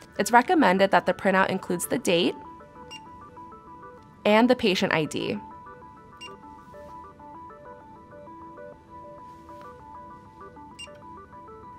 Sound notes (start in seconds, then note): 2.9 electronic beep; 6.2 electronic beep; 7.9 relaxed electronic music